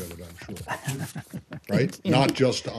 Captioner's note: laughter